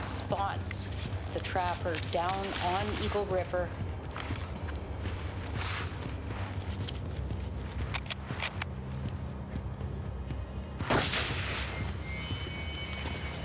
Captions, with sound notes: spots the trapper down on Eagle River. (gun cocks) (gun fires)